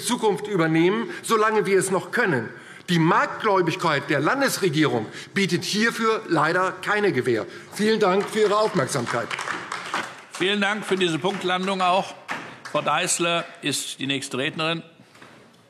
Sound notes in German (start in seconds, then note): 9.4 Beifall DIE LINKE